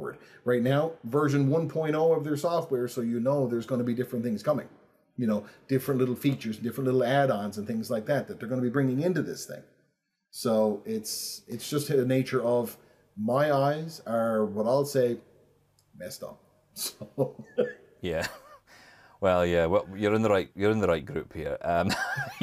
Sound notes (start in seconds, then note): 18.1 chuckles; 21.8 laughs